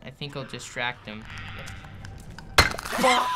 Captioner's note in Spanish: Clicker croar